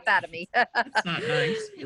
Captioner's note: laughing